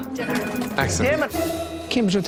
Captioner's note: phone ringing loudly